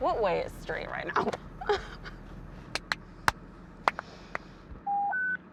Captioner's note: laughter; beeping